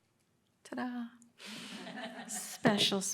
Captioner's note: audience laughing